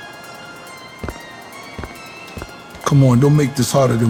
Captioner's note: footsteps fall